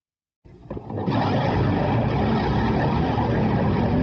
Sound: motorbikes revving

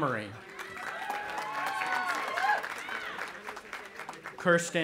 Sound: audience applauding and cheering

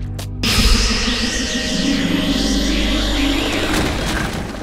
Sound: light buzzing

